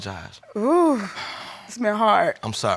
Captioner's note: exhales